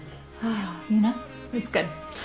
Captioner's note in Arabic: يتنهد